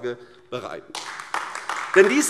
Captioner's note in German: Beifall AfD